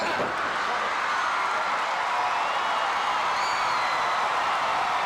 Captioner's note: audience cheering